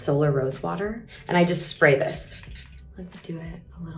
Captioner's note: bottle spraying